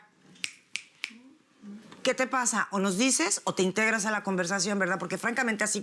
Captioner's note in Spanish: Chasquido de dedos